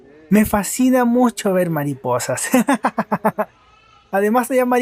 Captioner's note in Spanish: risas